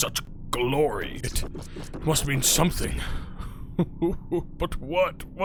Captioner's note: sobs